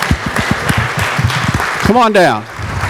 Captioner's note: applause